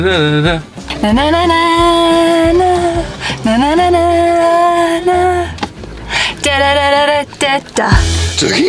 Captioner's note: humming song; humming song